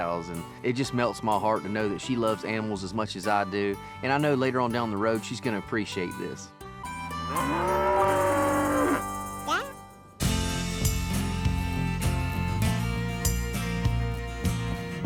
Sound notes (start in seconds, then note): 7.2 cow moos